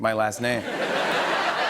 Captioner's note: laughter